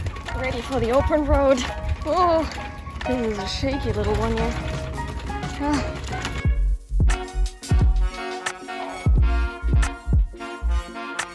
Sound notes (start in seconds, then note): 5.4 sigh